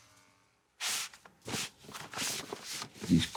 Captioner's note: papers rustling